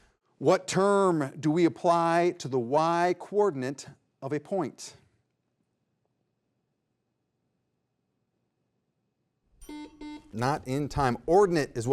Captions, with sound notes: What term do we apply to the Y coordinate of a point? (bell tings) (double beep) Not in time.